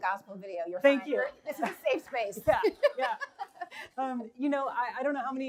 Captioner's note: laughs